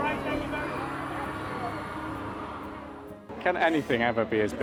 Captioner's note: people chattering